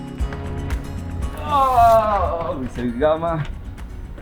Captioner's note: sigh